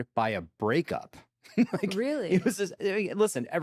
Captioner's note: chuckles